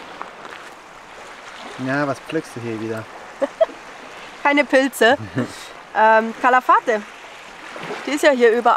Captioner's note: laughter